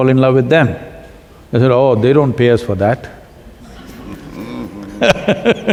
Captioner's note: laughs